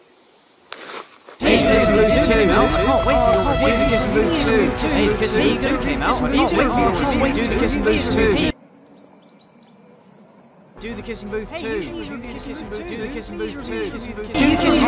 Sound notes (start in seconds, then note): 4.5 the horde screams; 10.7 the horde screams, but quieter